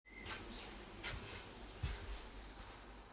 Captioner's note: footsteps approaching